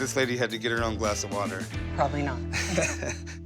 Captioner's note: laughs